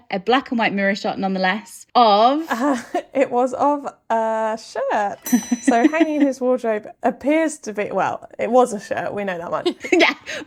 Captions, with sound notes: a black and white mirror shot nonetheless of... - It was of a shirt. [ding] [laughing] So hanging in his wardrobe appears to be, well, it was a shirt, we know that one.